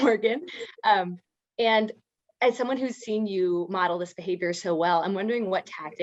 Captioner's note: laugh